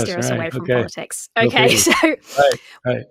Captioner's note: laughing